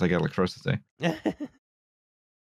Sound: laughs

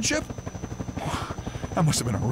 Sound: Male 04 Breaths Out

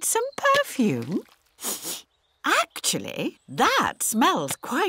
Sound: sniffs

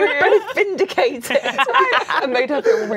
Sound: laughing

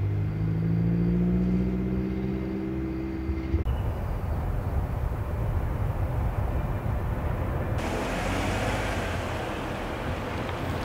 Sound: motorcycle revs

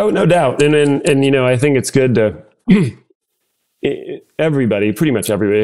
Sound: clear throat

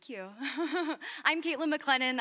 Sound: chuckles

